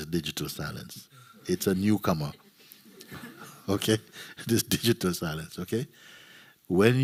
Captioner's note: laughter